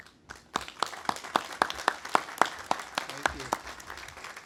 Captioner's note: audience applauding